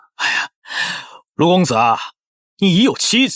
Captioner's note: sighs